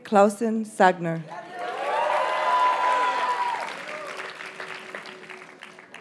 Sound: audience cheers and applauds

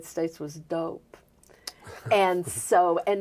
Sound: chuckling

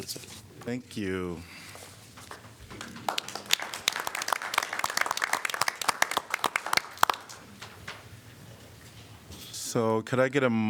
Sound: applause

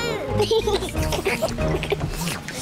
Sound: all slurp

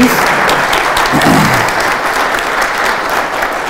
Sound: applause

